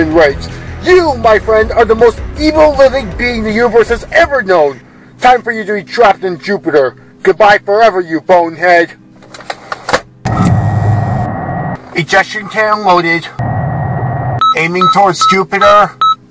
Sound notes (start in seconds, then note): 10.2 ejection cannon deploying; 10.3 Danno closing door